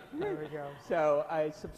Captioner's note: laughs